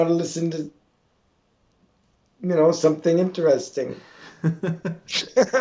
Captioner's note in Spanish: Risas